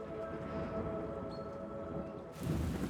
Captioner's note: thunder rumbles